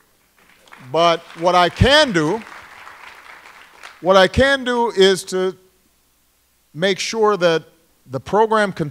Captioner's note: applause